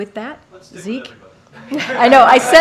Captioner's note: laughter